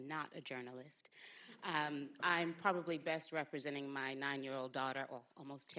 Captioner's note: laughter